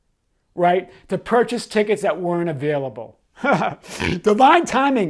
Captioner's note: chuckling